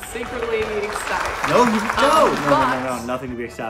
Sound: audience clapping

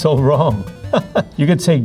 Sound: laughing

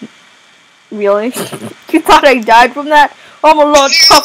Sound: chuckle

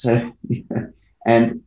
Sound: chuckles

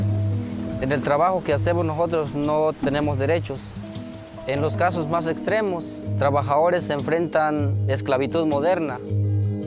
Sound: speaking Native Language

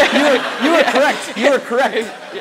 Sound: audience laughs

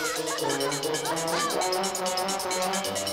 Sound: giggles

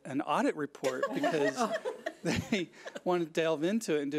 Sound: laughs

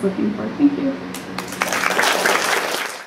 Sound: applause

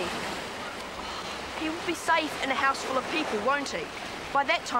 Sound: sighs

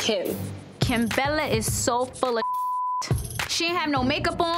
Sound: beep

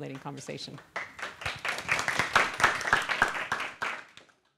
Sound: applause

